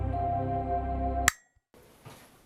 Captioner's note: light switch flicking